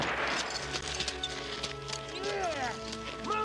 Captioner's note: whip cracking; sled rattling; footsteps crunching